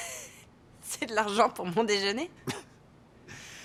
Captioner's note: chuckling; chuckling